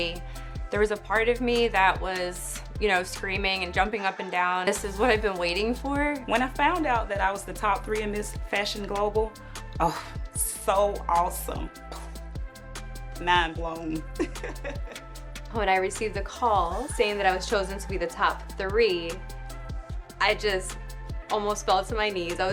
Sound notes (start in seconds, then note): 14.2 laughs